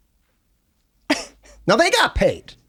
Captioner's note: laughs